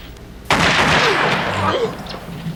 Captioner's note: gunshots